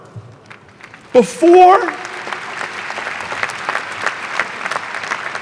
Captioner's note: audience applauding